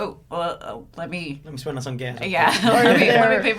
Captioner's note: laughs